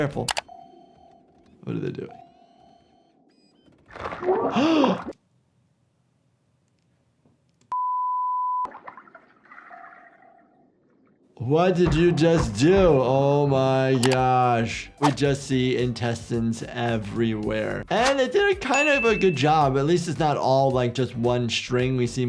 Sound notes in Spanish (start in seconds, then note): 0.1 chasquido del teclado; 4.5 jadea; 7.7 pitido del localizador